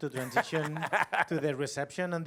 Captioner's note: laughter